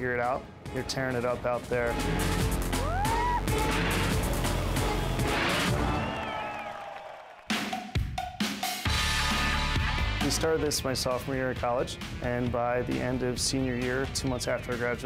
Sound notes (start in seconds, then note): 4.8 canned cheers, applause; 7.9 rock music